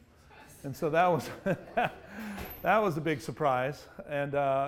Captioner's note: laughs